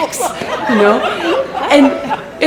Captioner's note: laughter